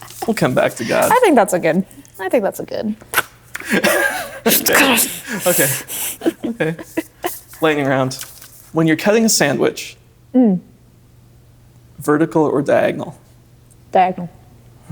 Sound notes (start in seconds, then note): 3.6 laughing